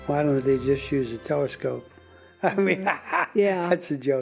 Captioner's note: laughing